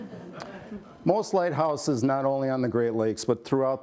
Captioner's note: laughter